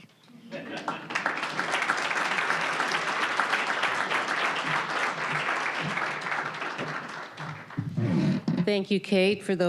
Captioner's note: applause